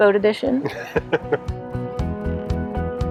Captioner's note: upbeat music; laughing